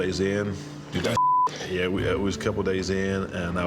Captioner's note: beep